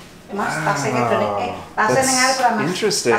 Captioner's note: speaking Indonesian in background